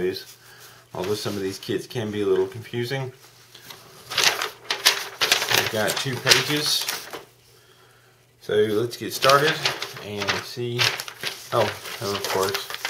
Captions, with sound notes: Although some of these kits can be a little confusing. [paper crinkles] You've got two pages. So let's get started and see, oh and of course